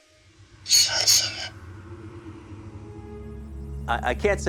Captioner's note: box whispers